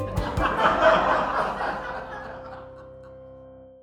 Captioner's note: happy music; audience laughter